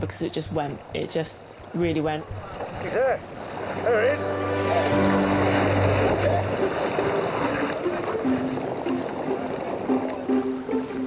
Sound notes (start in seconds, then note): 3.8 bright music; 5.0 water splashing